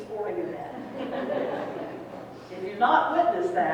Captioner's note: people laughing